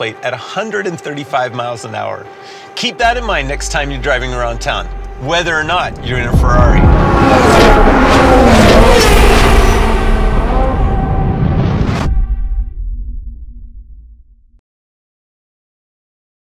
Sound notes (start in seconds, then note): 6.9 cars whooshing